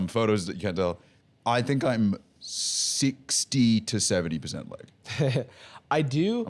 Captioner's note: laughs